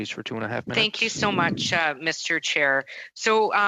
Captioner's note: speaking in French